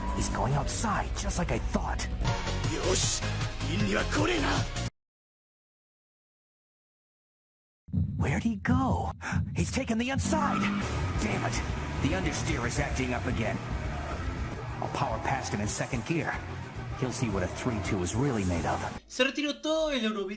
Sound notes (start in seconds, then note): 9.2 gasp